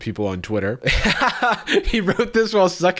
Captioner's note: laughs